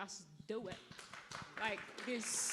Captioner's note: audience claps